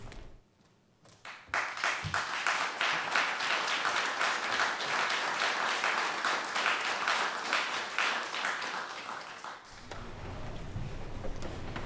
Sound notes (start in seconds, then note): 1.2 applause